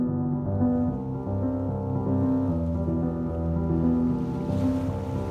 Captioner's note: water splashes